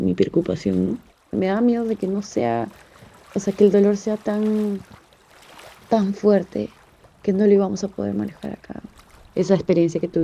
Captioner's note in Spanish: sonidos de agua, varias flores y voz off femenina #2